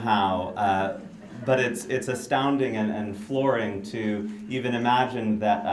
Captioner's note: laughter